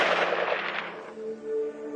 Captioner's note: gunshot